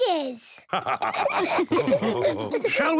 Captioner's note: all laughing